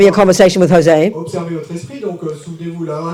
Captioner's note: speaking in French